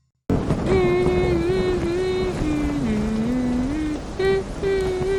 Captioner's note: humming